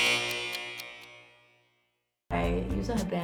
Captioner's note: timer buzzing